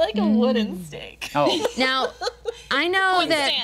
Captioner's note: group laughing